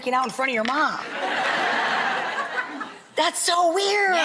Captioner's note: audience laughs